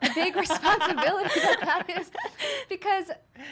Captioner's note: laughing; laughs